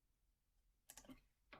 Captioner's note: click